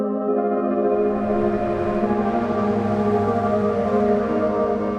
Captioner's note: engine humming